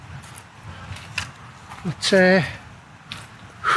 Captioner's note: phew